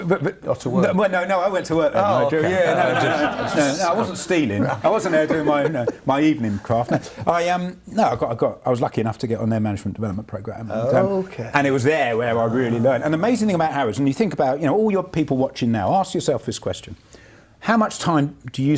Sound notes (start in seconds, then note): 1.6 laughs